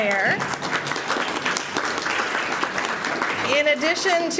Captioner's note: applause